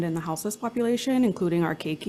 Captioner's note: none